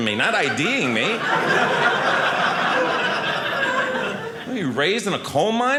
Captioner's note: audience laughing